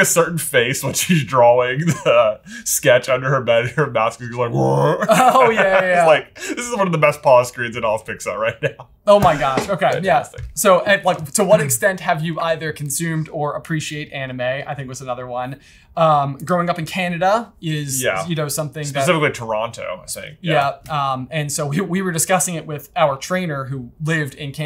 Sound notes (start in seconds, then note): 4.4 growls; 4.5 laughs